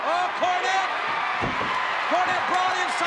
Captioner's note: audience cheers